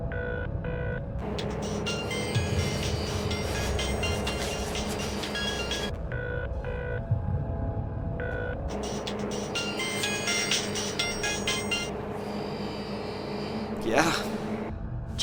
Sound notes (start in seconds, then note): 1.2 phone ringing; 1.2 line ringing; 8.7 phone ringing